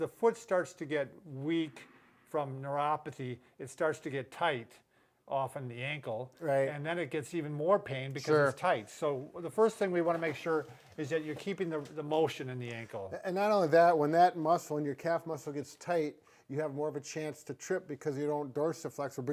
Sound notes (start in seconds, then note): none